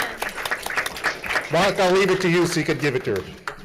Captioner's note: everyone applauding